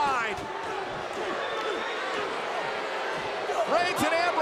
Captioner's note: crowd roars; wrestlers grunt